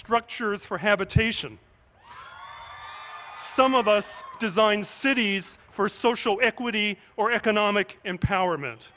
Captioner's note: cheers